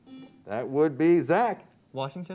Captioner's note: buzzer beeps